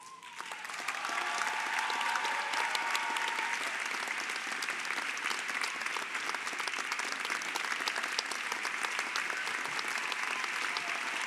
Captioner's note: Applaudissements